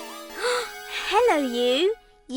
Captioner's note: Isabella gasps